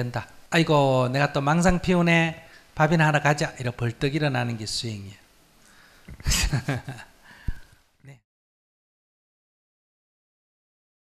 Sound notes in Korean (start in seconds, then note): 6.2 스님 웃음